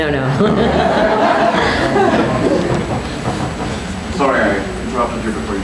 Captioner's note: people laughing